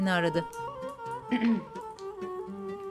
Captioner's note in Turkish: Boğaz temizleme sesi